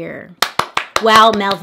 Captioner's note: claps